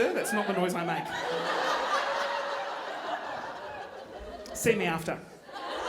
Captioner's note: audience laughing